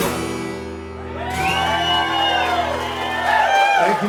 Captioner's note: cheers and applause